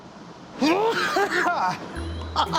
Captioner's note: laughs; coughing hard